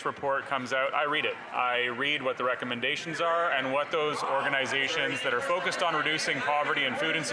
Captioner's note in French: voix de l'interprète